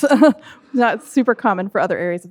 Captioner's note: laughs; audience laughing